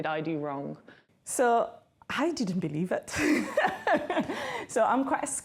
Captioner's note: laughs